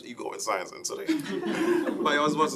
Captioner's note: laughing